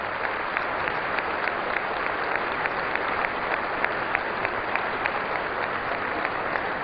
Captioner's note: applause